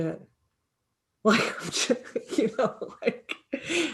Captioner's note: laughing